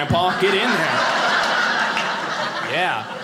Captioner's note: audience laughing